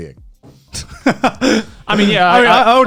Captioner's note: laughs